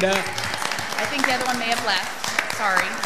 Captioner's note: audience applauds